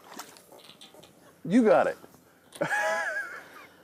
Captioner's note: laughs